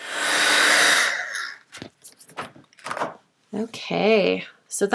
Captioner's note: heat tool whirs